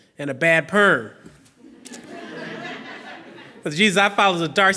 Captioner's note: laughing